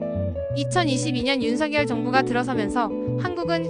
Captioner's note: Korean; speaking Korean